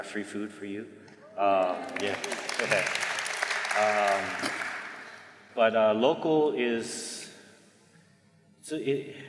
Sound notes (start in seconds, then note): 1.5 audience applause